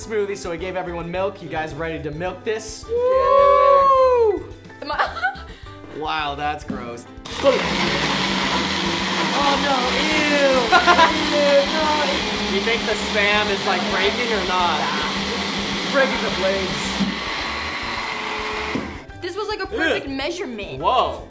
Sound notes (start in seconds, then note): 4.8 laughing; 7.2 blenders whirring; 10.6 laughing